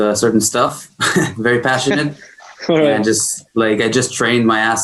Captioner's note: chuckles